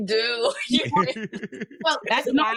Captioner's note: laughing